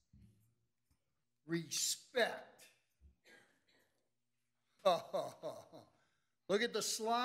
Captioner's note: laughs sarcastically